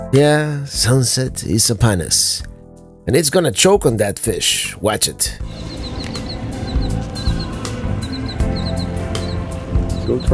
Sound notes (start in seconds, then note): 4.8 birds chirping